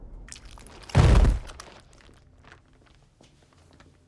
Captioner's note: body thumps